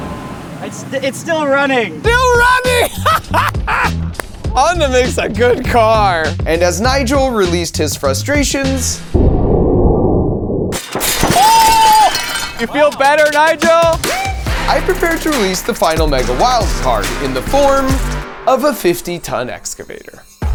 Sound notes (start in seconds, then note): 2.1 laughing; 3.4 hands clapping; 9.0 air whooshing; 10.7 glass shattering; 12.9 upbeat techno music